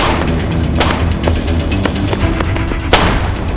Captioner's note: guns blasting